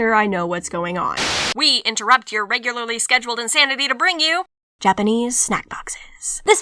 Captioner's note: static